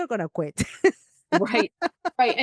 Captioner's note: laughs